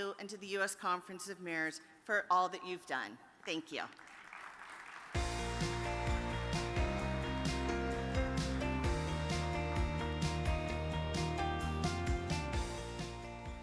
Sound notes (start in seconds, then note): 3.9 audience applauds; 5.1 upbeat music begins